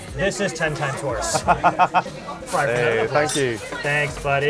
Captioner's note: laughing